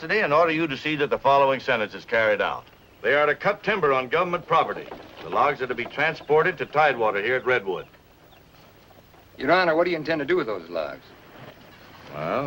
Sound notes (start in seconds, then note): none